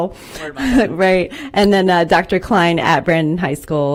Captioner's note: laughter